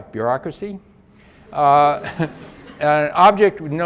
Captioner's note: audience laughs faintly